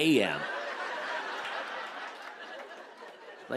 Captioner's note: laughter